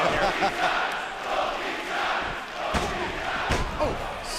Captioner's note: fans chanting